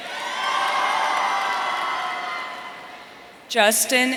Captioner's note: audience cheering